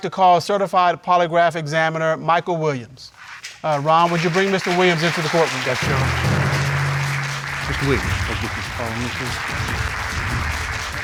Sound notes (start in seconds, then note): 3.9 audience applauding